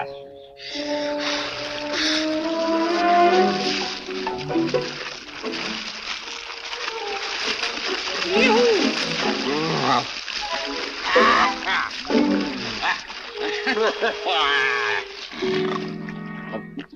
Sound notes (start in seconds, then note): 3.3 water splashes; 13.3 laughs